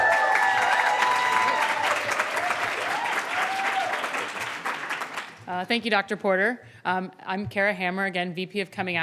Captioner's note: applause